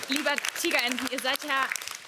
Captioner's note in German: Applaus